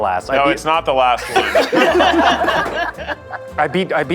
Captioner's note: all laughing